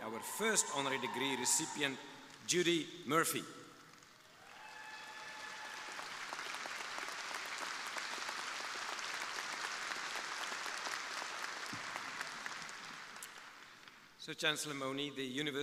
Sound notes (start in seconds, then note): 4.0 crowd applauding